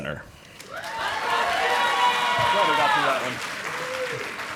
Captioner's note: audience applauding